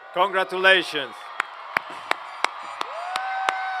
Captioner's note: cheers and Applause